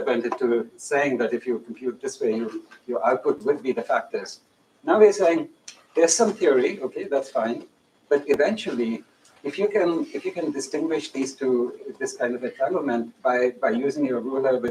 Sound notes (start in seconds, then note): none